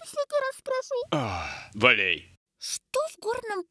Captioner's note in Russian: вздох